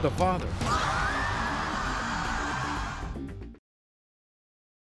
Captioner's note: crowd gasping